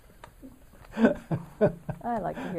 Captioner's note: laughs